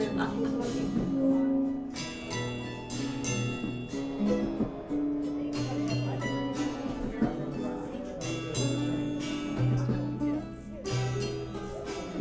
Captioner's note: crowd sounds